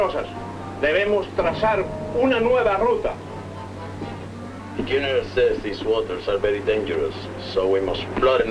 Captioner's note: speaking spanish